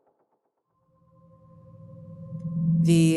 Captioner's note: cosmic sounds